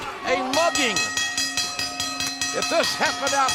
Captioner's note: bell ringing